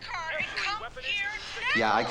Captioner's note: on phone